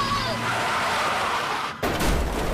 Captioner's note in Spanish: Gritos